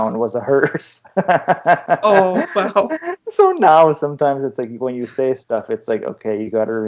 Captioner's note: laughter